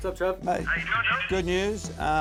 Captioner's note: on phone